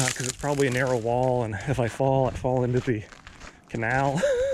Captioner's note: nervous laughter